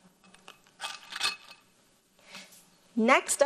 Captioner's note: soft clinging